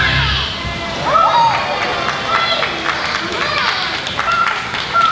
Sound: applause

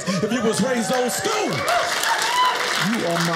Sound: audience clapping

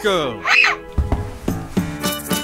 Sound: screams

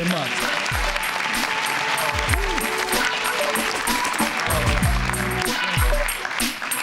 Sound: applause; closing music

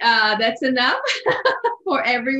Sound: laughs

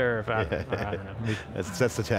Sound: chuckles

